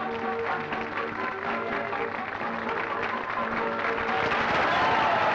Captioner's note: upbeat music; applause and cheering